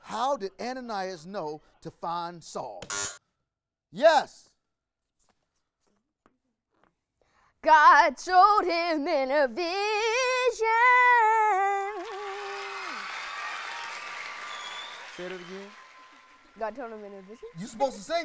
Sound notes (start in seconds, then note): 2.9 buzzer rings; 11.8 audience applauds